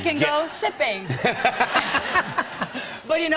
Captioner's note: laughter